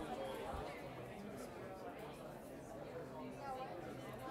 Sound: chatter

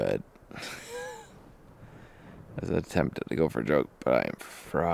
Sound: laughs

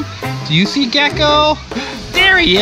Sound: gasps

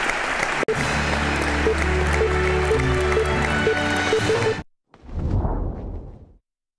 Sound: applause

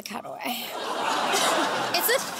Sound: laughter

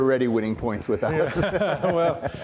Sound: everyone laughs

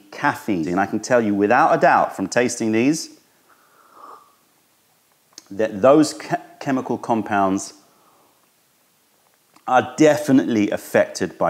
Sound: sips tea

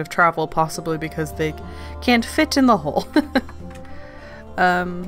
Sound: laughs

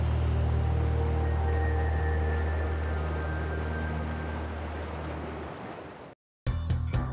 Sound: tranquil music; water rushing

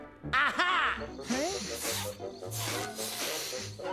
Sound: sniffing

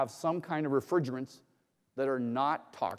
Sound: none

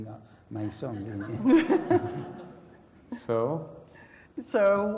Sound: laugh

